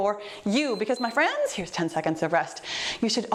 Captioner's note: timer beeps